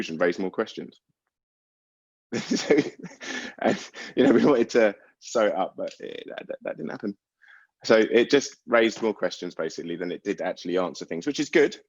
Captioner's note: laughs